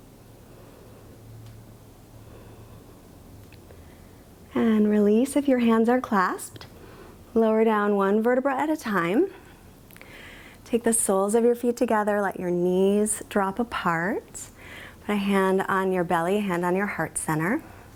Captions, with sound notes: (inhales) (exhales) And release if your hands are clasped. Lower down one vertebra at a time. Take the soles of your feet together, let your knees drop apart. Put a hand on your belly, hand on your heart center.